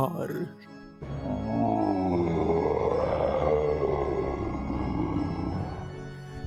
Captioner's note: monster groans approvingly